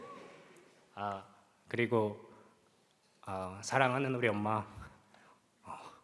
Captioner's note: speaking Korean